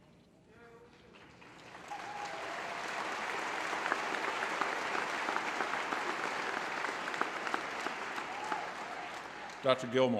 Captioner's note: applause